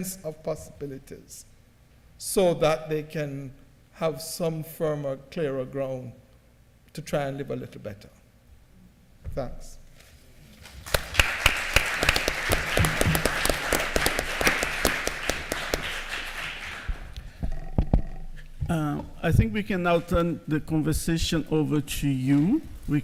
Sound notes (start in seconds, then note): 10.6 applause